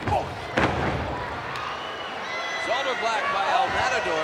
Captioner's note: body thudding